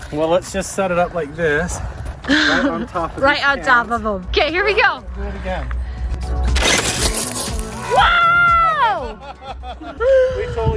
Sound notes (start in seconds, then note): 6.5 RC car whirring; 9.0 laughs